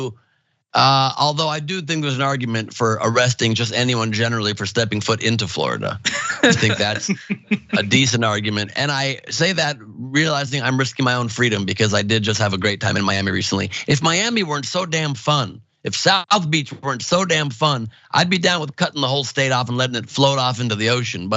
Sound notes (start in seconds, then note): 6.0 laugh